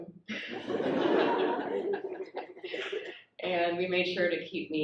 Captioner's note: audience laughs